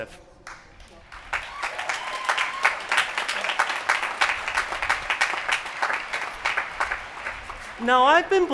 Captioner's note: applause